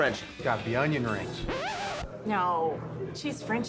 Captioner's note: record scratching sound